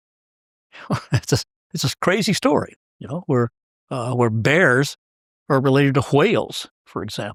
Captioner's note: laugh